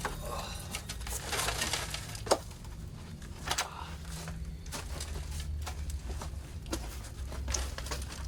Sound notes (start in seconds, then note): 0.9 gruñidos